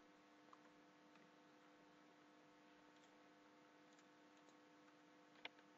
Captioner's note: none